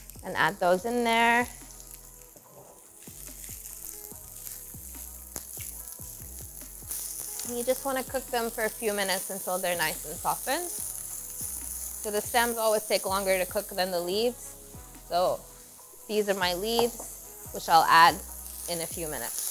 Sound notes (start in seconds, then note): 3.1 stems sizzling continues